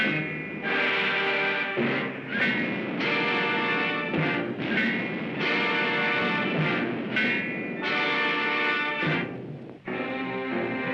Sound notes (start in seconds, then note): 0.0 dramatic music; 4.5 boom; 7.6 dramatic music